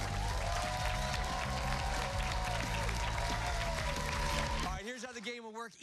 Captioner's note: cheers and applause